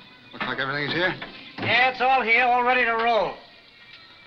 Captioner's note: man loading truck